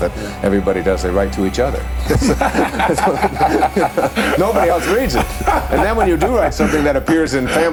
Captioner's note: laughter